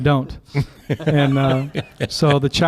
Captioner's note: laughter